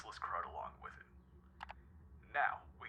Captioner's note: clicking